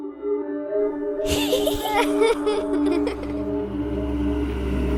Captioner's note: children's laughter